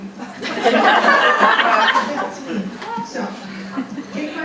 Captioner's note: audience laughing